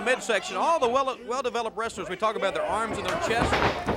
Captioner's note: crowd cheering